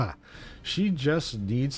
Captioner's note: laughs